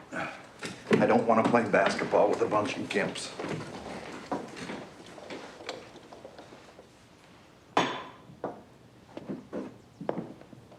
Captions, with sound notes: (sighs) I don't wanna play basketball with a bunch of gimps. (wheelchair clattering) (glass tapping)